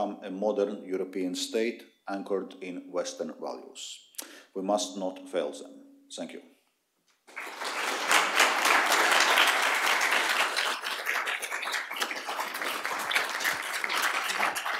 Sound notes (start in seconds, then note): 6.3 applause